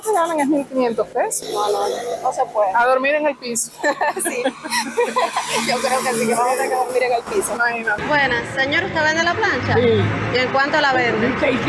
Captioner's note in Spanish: Risas